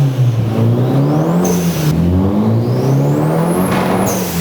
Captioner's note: engine revving